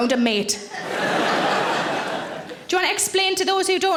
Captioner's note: audience laughing